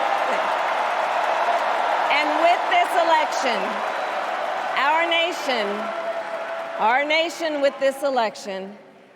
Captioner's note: cheers and applause